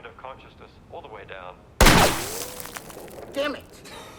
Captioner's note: gunshot